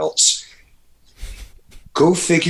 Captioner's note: Andrew laughs